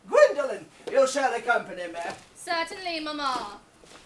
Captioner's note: none